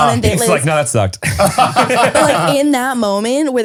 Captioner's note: all laughing